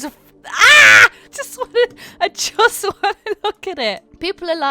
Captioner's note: laughing